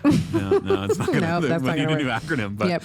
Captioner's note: laughs